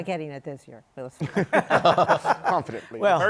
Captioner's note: laughter